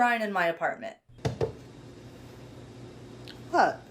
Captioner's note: picture thuds on shrine